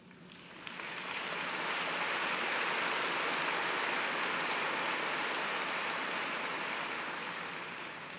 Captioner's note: applause